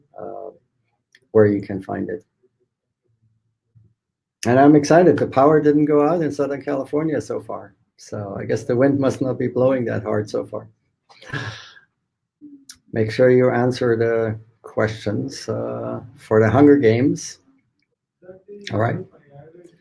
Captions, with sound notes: where you can find it. And I'm excited, the power didn't go out in Southern California so far. So I guess the wind must not be blowing that hard so far. (laughs) Make sure you answer the questions for the Hunger Games. All right.